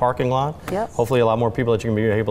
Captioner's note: hands tapping table